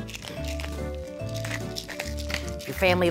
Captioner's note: pepper grinding